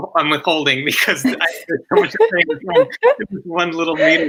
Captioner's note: laughs